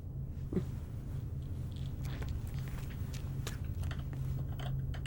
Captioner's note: Marie chuckling